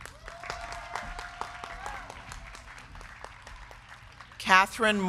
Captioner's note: crowd cheering; crowd clapping